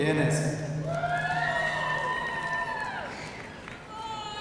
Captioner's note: audience cheering